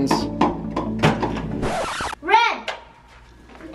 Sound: record scratching

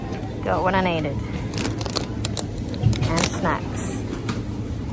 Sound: chips packet crinkles

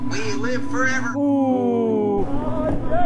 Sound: men exclaim softly

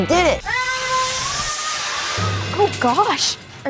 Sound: Brian shouting

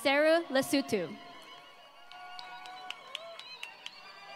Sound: applause

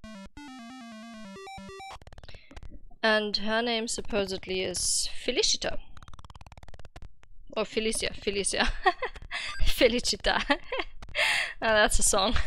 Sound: laughing

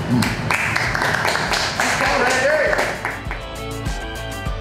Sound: crowd clapping and cheering

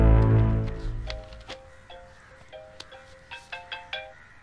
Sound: cell phone rings

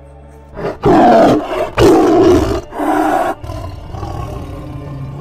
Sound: loud roaring

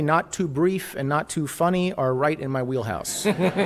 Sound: laughter

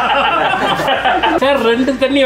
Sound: laughs

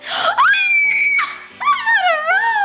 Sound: screaming

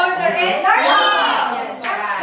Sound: chattering

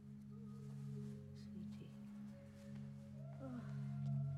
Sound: sighing

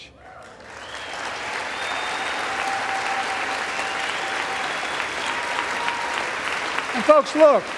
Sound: applause

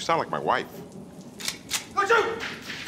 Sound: gun cocking

